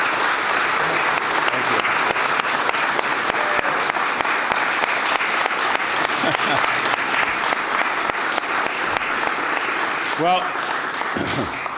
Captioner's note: applause